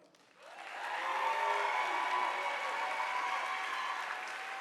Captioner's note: audience applauding